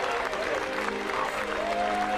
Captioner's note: crowd cheering